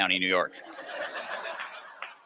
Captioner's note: laughter